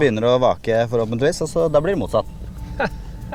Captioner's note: giggle